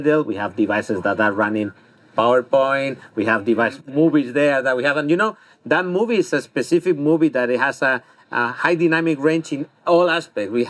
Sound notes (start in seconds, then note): none